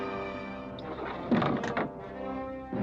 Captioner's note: tense, dramatic music; door sliding open